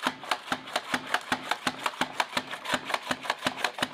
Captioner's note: chopping on cucumber